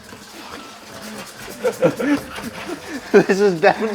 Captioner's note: laughing